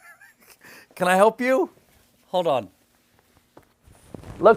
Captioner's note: laughter